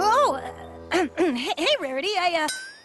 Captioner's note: clears throat